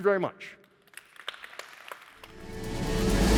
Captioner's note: audience applauding; upbeat music